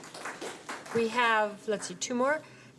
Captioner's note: applause